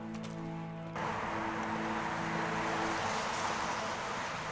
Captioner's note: traffic whooshing